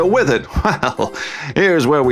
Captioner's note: chuckles